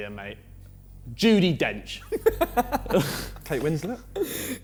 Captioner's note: Vik laughing